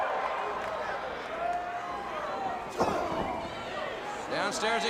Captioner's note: crowd cheering